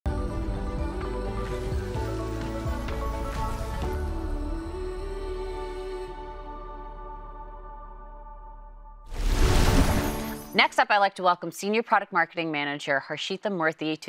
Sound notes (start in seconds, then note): 0.1 gentle upbeat music; 9.2 air whooshing